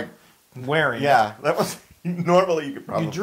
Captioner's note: laugh